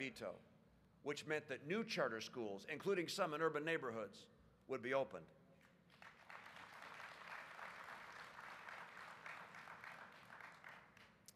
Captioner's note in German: Applaus